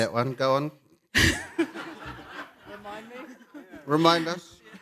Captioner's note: laughter